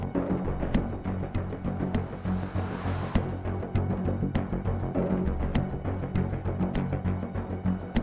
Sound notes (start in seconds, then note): 0.6 vehicle droning; 2.1 suspenseful music continues